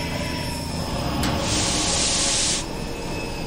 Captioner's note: sound of contacts engaging